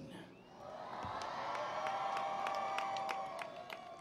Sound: cheering

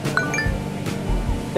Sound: text sound

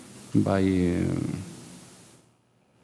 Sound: speaking in a foreign language

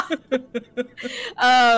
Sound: laughter

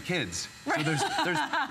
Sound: laughter

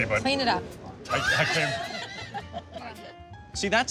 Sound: laughs

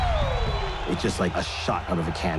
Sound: crowd cheering

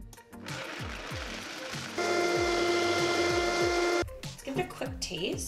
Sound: blender whirring loudly

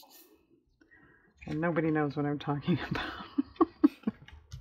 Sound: laughs

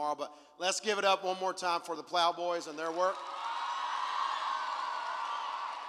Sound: cheer

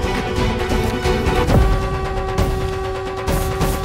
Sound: conch blowing

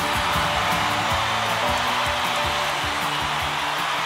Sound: crowd cheering

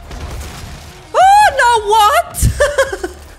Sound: laughter

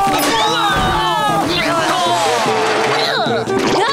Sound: screaming; groaning

